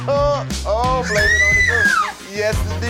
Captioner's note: shrieks